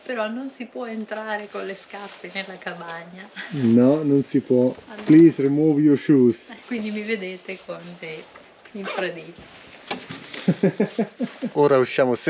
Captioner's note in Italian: Risate